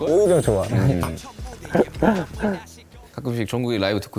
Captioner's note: haha